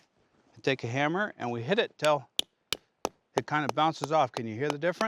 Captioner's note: hammering